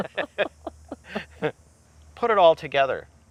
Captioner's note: laughing